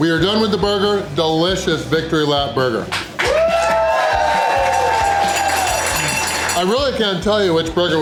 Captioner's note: crowd cheering and applause